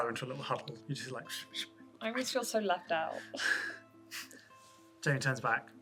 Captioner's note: muttering